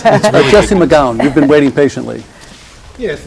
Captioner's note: laughing